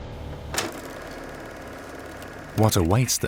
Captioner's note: movie reel humming